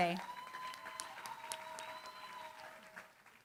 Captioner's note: applause